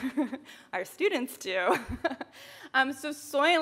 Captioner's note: chuckles